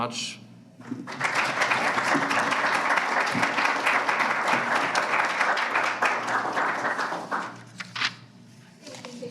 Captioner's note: applause